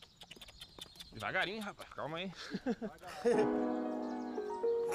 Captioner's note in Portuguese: risada